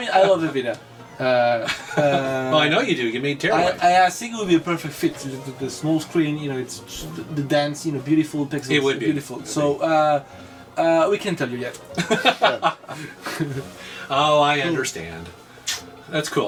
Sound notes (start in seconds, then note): 11.9 laughs